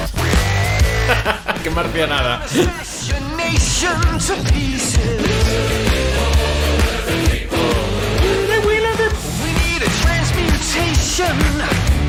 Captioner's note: laughs